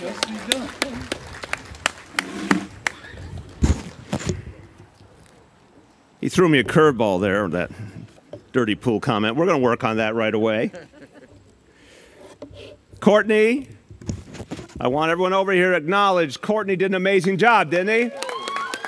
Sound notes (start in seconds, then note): 2.8 cheering & applause